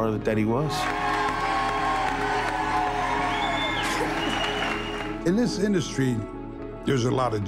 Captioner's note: applause